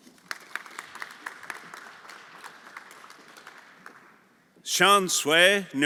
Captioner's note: everyone applauding